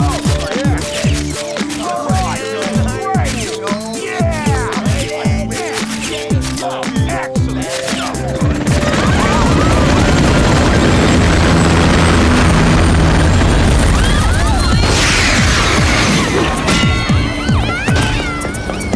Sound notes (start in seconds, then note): 3.1 camera shutter; 9.5 screaming